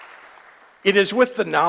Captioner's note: applause